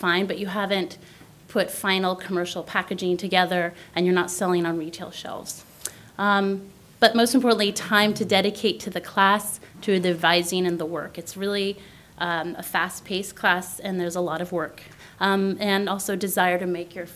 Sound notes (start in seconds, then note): none